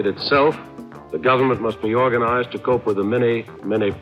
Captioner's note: archival news audio